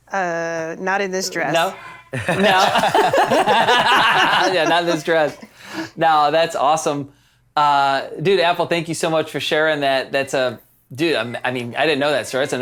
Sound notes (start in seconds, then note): 2.1 everyone laughs